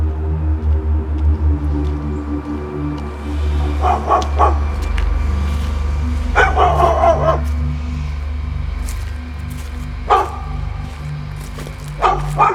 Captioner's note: dog barking